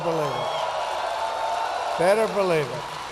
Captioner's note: applause